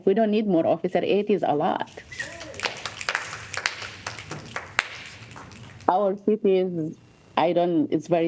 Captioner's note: applause